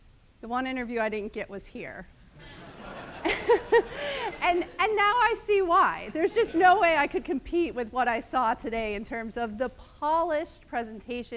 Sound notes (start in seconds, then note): 2.3 laughter